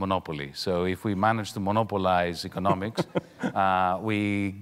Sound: chuckling

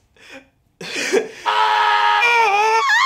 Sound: cries; screams; yells

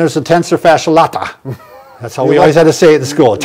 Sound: laughs

